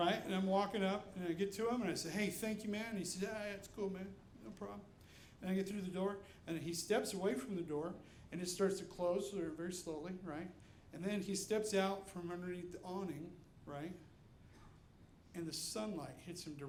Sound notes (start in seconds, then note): none